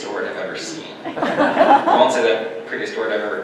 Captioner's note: audience laughter